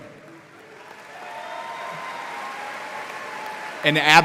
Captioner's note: audience applauding